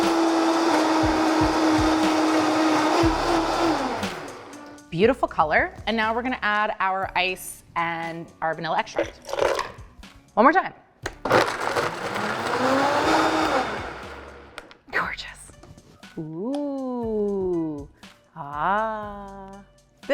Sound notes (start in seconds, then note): 11.2 whirs